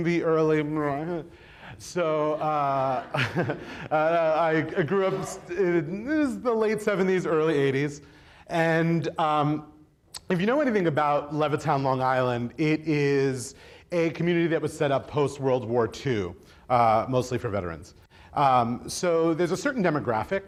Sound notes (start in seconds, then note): 1.9 chuckles